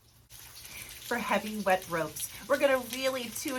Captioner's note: rain in the background